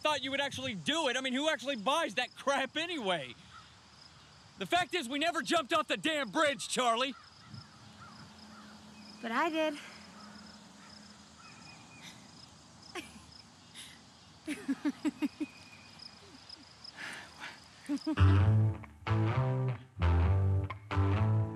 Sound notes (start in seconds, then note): 14.4 Charlie laughs; 18.1 perky music